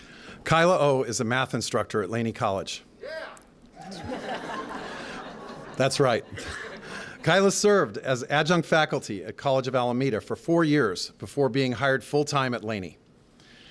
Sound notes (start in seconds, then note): 3.8 laughter